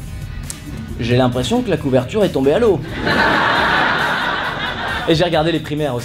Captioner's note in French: rires